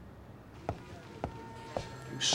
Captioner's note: phone ringing